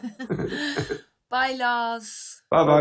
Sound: laughs

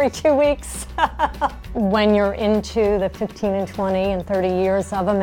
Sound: laughter

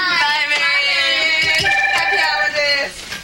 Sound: telephone rings

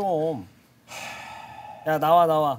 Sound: sighing

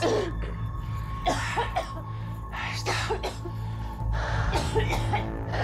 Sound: Continúa tosiendo

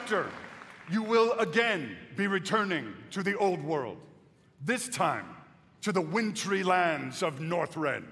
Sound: applause

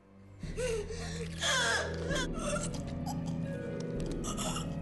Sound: chokes

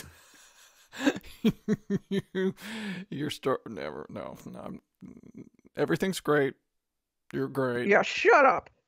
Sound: laughing

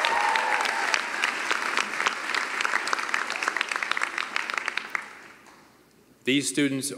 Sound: cheering and applause

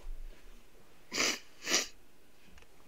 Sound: sniffle, sniffle

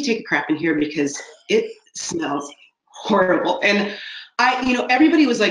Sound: laughing

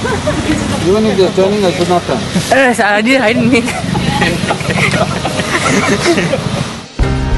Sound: laughter

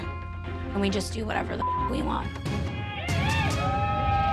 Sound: whooping

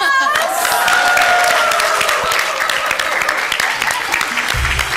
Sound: people applauding, cheering

